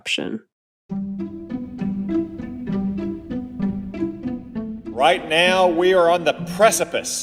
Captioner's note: soundbite of archived recording